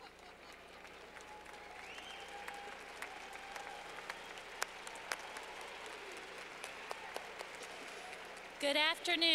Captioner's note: clapping